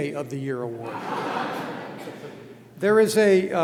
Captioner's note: laughter